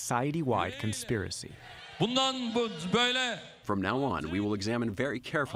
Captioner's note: through translator